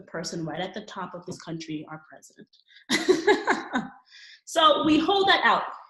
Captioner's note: laughing